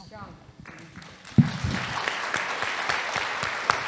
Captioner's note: audience applauding